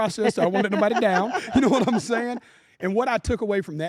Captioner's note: laugh